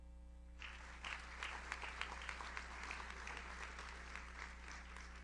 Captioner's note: audience applauds